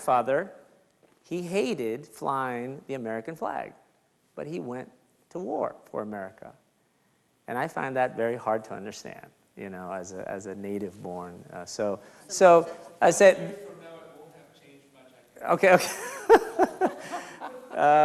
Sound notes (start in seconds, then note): 15.0 speaks faintly; 15.8 laughs